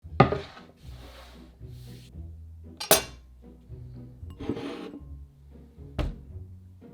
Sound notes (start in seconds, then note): 0.2 board sliding